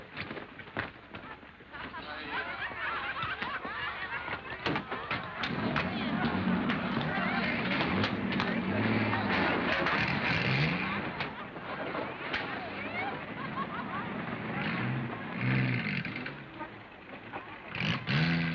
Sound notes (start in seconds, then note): 1.7 laughter and cheering; 6.8 engines roaring off